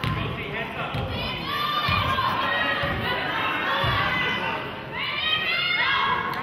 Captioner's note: murmurs